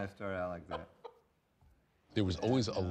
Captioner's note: laughs